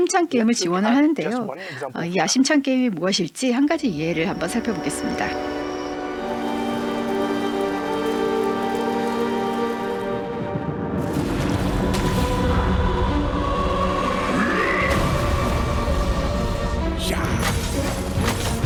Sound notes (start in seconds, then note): 3.2 dramatic music playing; 14.5 grunting